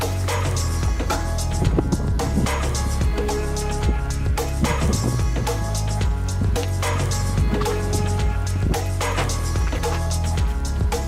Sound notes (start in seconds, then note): none